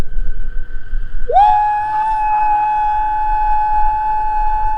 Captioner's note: howling